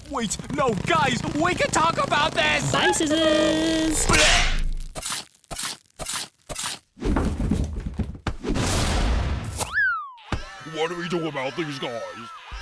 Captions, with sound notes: Wait–no, guys–WE CAN TALK ABOUT THIS! BYE, SCISSORS! BLEH– [SCREAMING] What do we do about these guys?